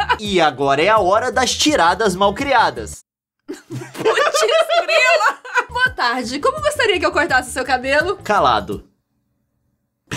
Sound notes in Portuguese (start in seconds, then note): 3.5 risadas